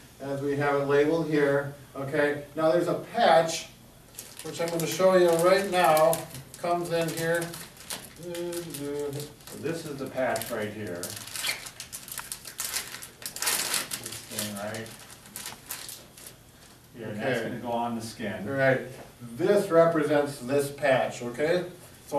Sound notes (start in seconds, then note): 7.8 packaging rustling